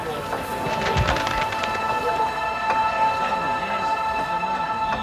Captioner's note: people's voices die down